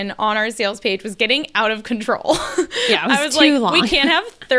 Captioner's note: laughs